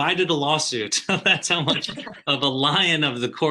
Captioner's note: presenters laughing